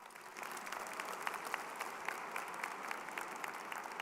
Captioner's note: crowd applauding